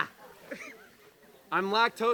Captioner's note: laughing